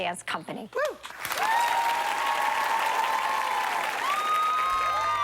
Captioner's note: applause